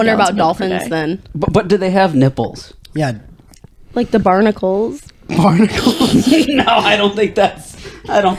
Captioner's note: laughs